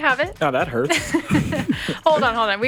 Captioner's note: podcasters chuckling